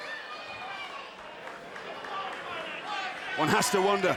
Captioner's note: crowd shouting